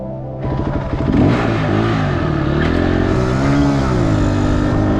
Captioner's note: dirt bike revving